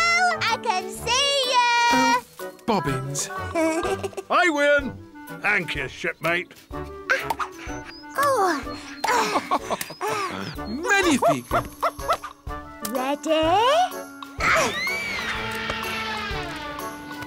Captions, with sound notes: General, I can see you! Oh, bobbins. I win! Thank you, shipmate. Oh! (chuckles) Magnifique! Ready?